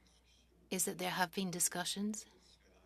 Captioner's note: speaking French